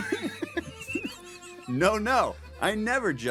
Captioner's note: laughing